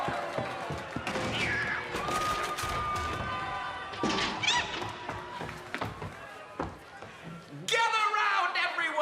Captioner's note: cheers and applause